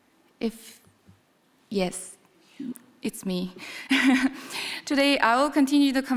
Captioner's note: chuckles